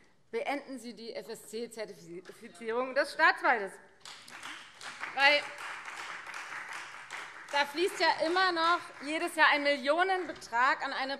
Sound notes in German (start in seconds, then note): 4.0 Beifall Freie Demokraten